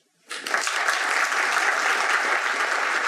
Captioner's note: applause